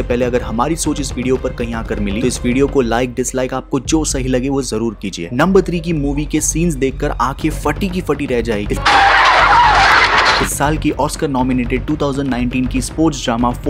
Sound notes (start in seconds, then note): 8.8 car screeching